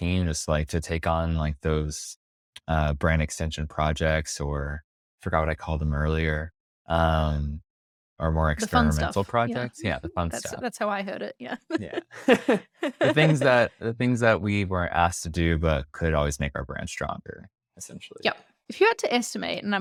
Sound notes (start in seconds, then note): 11.6 laughs